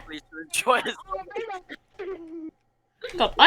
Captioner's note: laughing